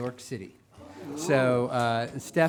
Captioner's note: assemblage gasping